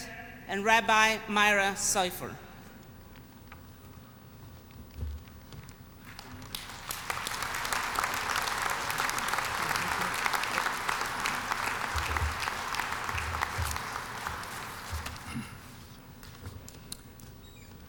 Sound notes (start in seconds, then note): 6.0 applause